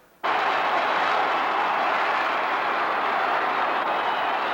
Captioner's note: crowd cheering